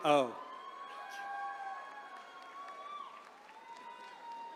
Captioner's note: attendees cheering